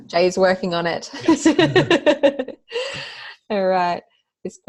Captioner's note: laughs